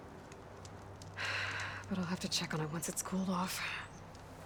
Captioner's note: sigh